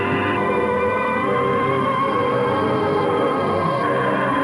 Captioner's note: eerie whistling